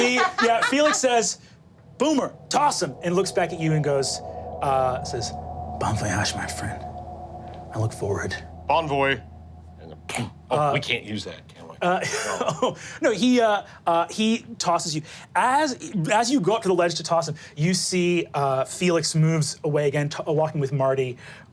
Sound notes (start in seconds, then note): 12.3 laughs